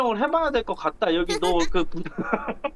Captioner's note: laughing